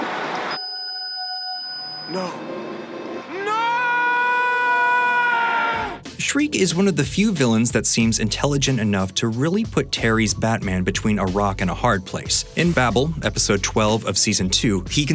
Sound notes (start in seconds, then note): 0.1 high-pitched whine; 3.1 yells dramatically